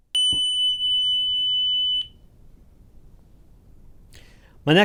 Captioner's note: tone generator beeping